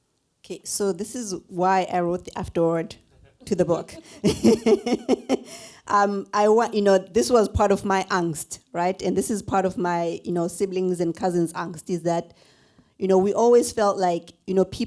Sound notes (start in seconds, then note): 3.2 laughs